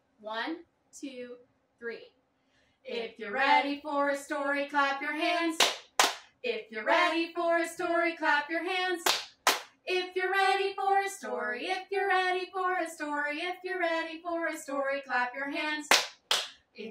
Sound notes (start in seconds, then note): 5.6 clap; 9.0 clap; 15.9 clap